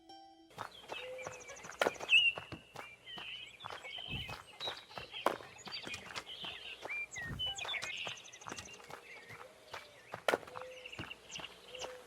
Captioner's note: wind